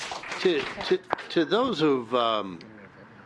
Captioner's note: applause